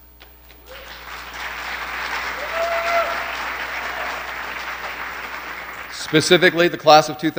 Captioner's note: applause